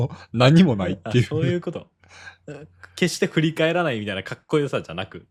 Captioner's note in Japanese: 笑い